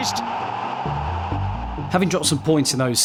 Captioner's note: crowd erupts